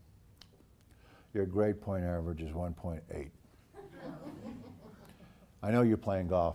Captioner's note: laugh